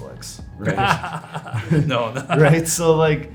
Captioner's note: both laugh